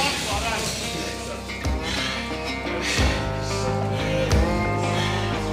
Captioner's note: heavy panting